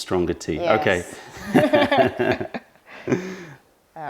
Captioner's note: laughter